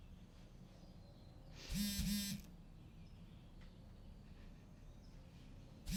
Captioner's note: phone Vibrating